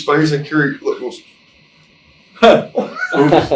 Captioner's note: laughing